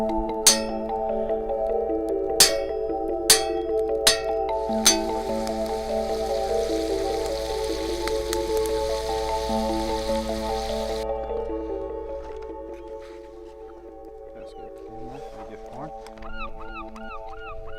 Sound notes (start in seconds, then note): 2.0 sizzling frying pan; 3.3 clang; 15.8 bird calling